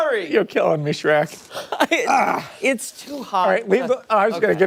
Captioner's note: laughter